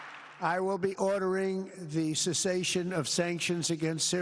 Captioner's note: applause